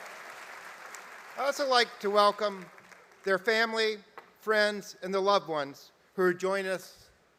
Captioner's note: applause